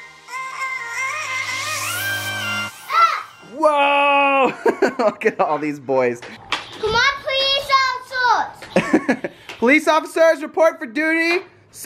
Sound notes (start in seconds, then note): 0.0 upbeat music; 2.9 groans; 4.4 laughing; 8.7 laugh